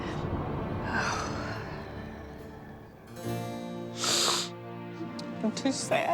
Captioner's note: sighs; sobs